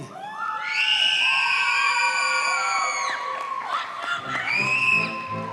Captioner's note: audience cheers and applauds